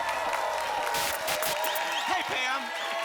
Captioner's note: applause and cheering cont; static